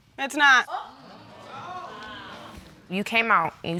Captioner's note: audience gasps